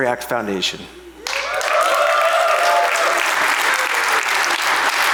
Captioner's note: audience applauds